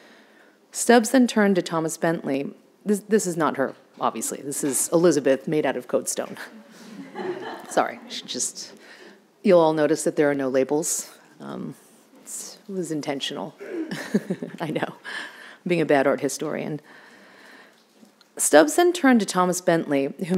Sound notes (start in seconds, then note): 6.6 audience laughing; 13.8 laughing